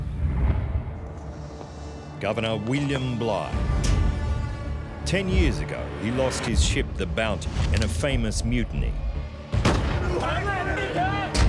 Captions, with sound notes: Governor William Bligh. Ten years ago, he lost his ship the Bounty in a famous mutiny. [gun shots] [men screaming]